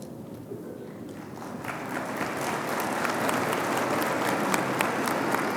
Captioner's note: audience applauding